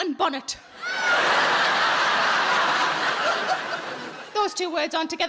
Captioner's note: audience laughing